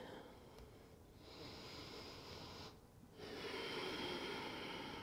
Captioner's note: deep breathing